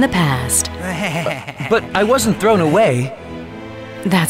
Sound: Forklift 1 laughs

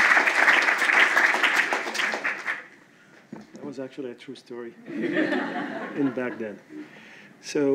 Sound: applause

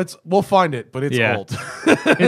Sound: laughter

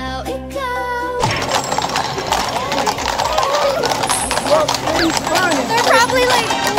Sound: horses clop

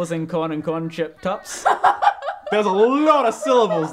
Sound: giggling; laughs

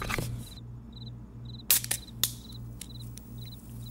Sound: tin hiss opens

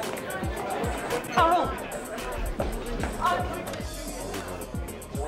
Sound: groaning lightly

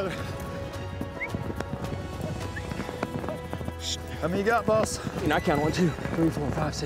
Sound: whistling

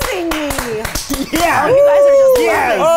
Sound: clapping and cheering

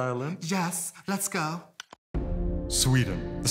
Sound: clicks tongue

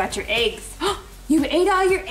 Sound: gasps

